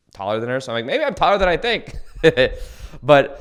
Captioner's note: laughs